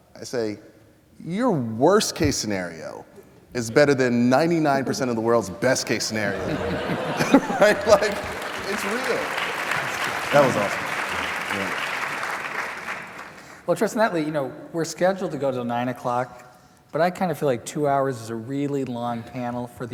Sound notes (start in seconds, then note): 6.2 laughter; 7.2 applause